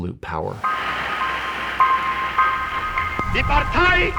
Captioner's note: light tense music; crowd cheering